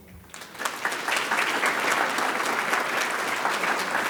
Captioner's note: audience claps